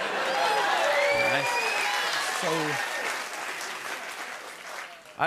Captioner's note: cheers and applause